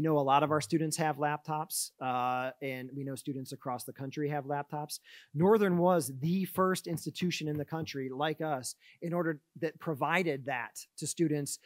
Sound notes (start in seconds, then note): none